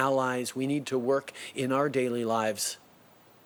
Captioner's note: speaking French